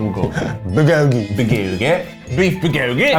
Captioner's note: laughs